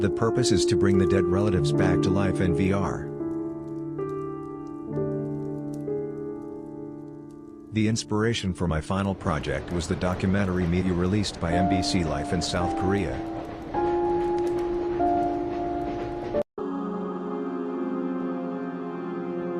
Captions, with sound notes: The purpose is to bring the dead relatives back to life in VR. The inspiration for my final project was the documentary media released by MBC Life in South Korea. (train rattling) (ethereal music)